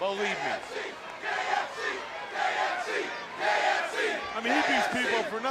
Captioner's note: crowd cheering